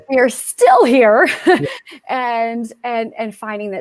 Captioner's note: laughter